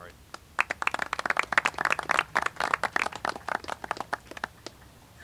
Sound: applauding

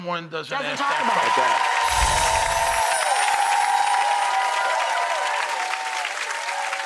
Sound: audience cheering and applauding

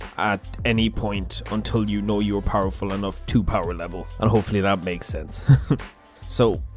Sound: awkward laugh

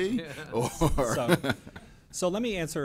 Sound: laughter

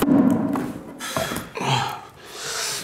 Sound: groaning

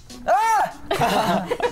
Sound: exclaims; laughing

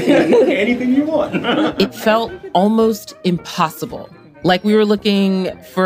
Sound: laughs

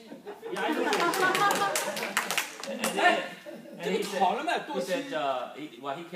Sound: group clapping; woman laughing

